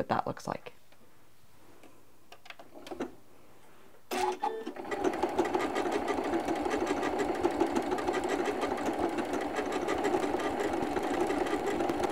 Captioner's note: machine stitching